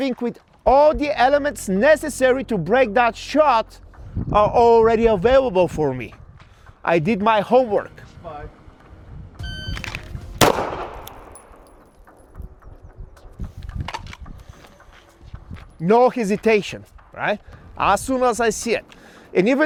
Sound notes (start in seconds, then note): 9.4 electronic beeping; 10.4 gun firing